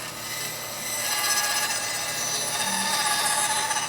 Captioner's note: tool squealing